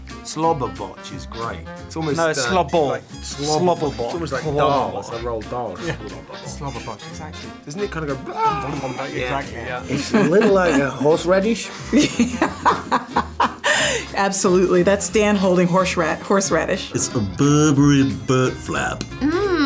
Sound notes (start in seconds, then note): 11.6 laughing